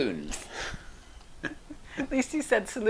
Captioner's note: both laughing